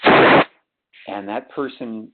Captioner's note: sliding static